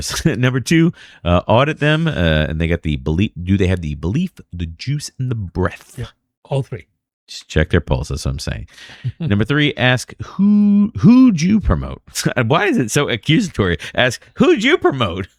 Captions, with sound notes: Number two [UH] audit them [UH] and they get the belief. Do have the belief, the juice, and the breath? All three check pulses. I'm saying number three, ask who, who do you promote [UH] why is it so accusatory? Ask who you promote?